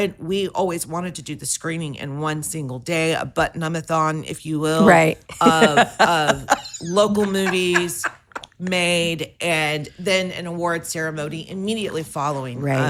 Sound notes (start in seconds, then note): 5.2 laughs